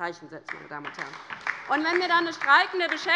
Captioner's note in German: Beifall bei der LINKEN